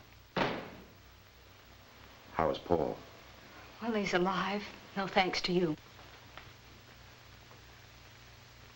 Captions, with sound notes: (outer door bangs shut) - How is Paul? - Well, he's alive. No thanks to you.